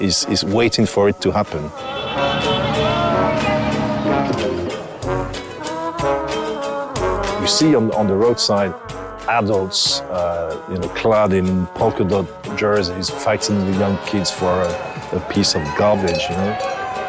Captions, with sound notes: uh, is waiting for it to happen. [cars honking] You see on the roadside adults, you know, clad in polka-dot jerseys, fighting the young kids for a piece of garbage, you know.